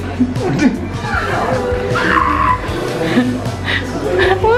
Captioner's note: both laughing